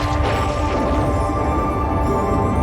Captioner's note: thunderclap